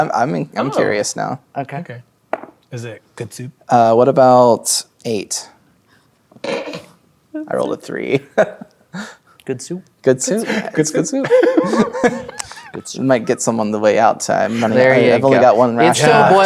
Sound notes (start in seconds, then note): 2.3 dice rolling; 5.9 laughs; 8.2 chuckles; 11.2 laughing